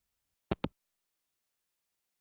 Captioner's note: hangup